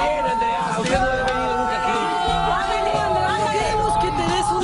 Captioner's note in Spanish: gritos